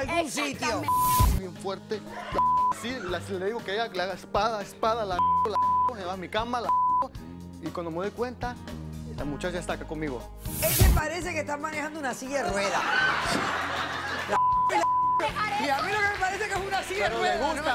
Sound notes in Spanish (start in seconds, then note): 6.6 Bip; 12.4 Risas